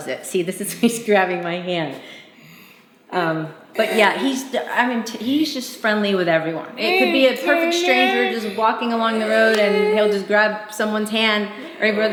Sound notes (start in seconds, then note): 6.7 murmuring